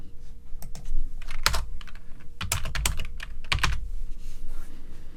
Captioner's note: keyboard clacking